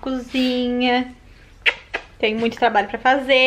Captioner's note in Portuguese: Barulho de beijo